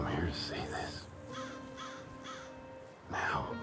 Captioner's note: bird cawing